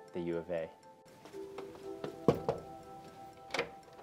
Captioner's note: knock on door